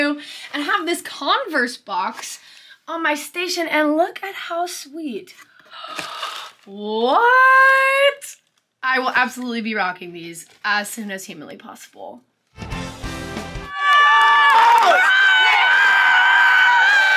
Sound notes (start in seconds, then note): 5.6 gasps; 13.6 crowd cheers loudly